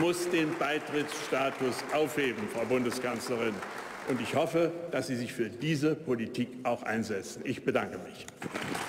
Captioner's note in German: Beifall bei der AfD